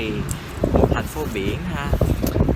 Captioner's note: Vietnamese